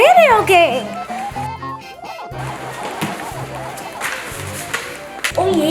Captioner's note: cartoony blooping